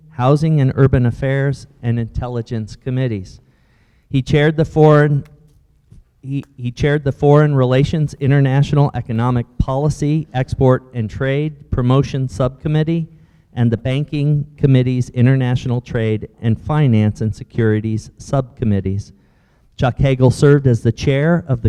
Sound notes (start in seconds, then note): none